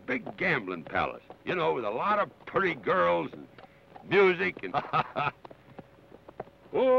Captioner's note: laughs